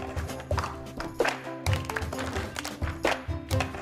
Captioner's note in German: Sie klatschen im Rhythmus